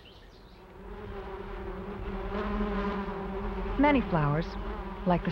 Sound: bees buzzing

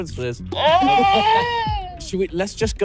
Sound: screams

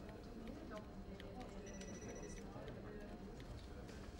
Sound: phone ringing

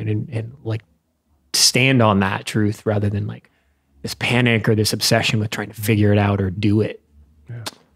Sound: none

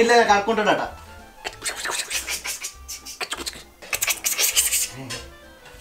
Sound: makes random sounds

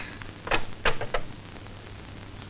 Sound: drawer opens

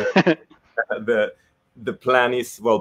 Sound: chuckles

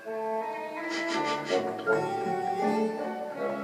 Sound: sniffing

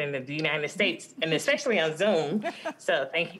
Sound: laughter

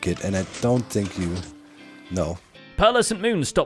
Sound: pistons move

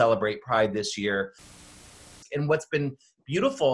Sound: static hisses

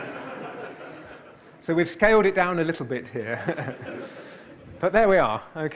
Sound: audience laughter; laughs

